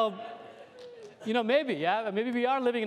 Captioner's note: laughter